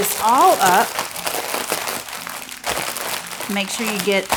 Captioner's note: bag crackling